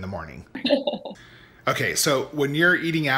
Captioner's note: laughs